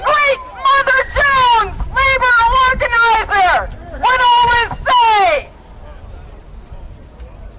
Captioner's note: cheers and applause